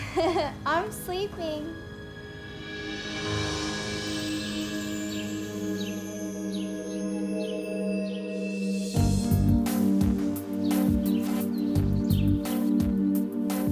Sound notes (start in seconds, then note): 0.0 giggles; 5.5 birds chirping; 9.1 mellow music